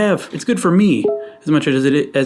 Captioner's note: computer chiming